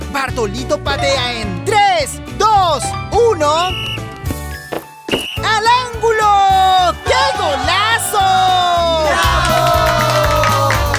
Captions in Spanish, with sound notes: Bartolito patea en... ¡Tres, dos, uno! (Sonido de silbato) ¡Al ángulo! ¡Que golazo! ¡Bravo! (Aplausos)